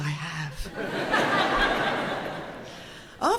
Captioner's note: audience laughing